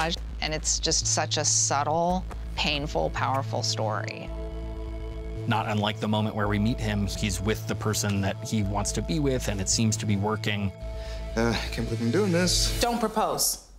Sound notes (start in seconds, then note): 11.0 groans